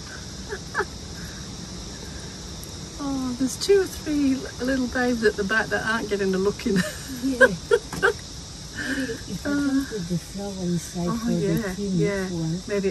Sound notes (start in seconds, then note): 0.4 laughter; 6.8 more laughter